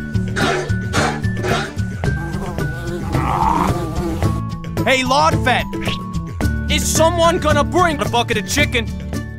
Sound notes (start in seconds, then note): 2.0 flies buzzing, Sniper groans